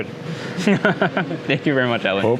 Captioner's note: laughs